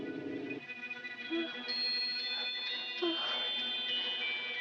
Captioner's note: moaning